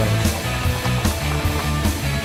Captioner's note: applause